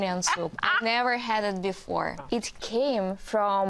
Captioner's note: laughs